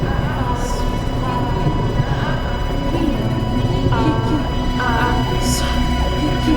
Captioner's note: suspenseful music; chanting continues